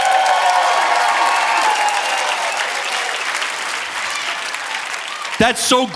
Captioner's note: audience cheering and applauding